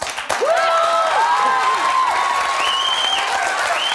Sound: audience cheering

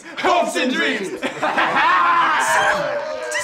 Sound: laughing

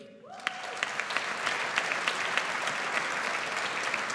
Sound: audience applauds

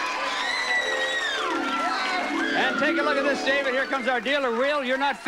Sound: audience applauding

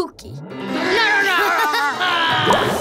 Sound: growling

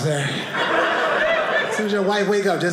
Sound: audience laughing

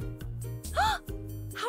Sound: gasp

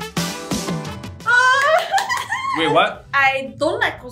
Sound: squealssss

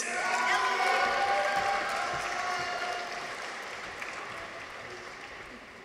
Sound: people cheer; audience applauds

